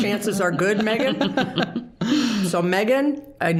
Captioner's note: all chuckling